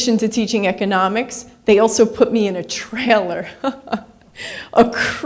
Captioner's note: laughs